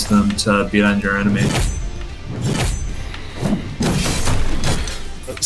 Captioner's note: explosive game effects